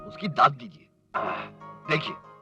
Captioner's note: sighs